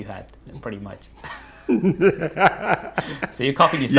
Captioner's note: laughing